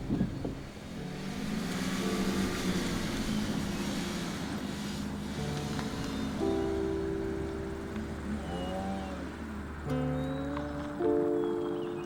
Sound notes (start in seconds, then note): 1.4 gravel crunching; 6.9 somber music